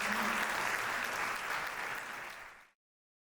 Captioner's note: audience applauds